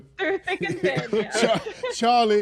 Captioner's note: laughs